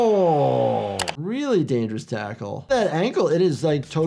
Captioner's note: keyboard clicking